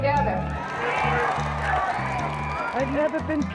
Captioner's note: cheers and applause